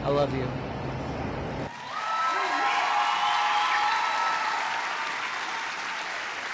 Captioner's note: audience cheering and applauding